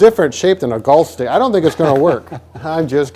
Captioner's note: laughing